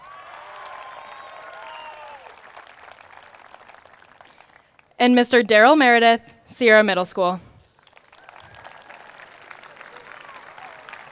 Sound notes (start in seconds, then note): 0.0 applause